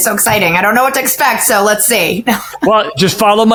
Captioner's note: chuckles